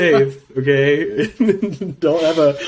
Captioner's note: laughs